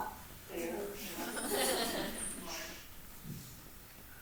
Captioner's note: audience laughs